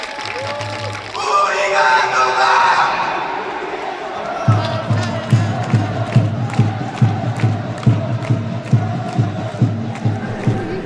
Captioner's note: the fans continued to cheer